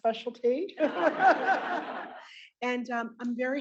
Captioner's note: all laughing